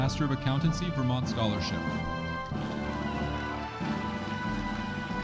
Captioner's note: audience applauding